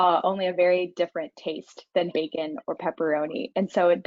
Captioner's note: none